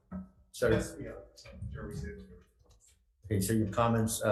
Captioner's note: speaks faintly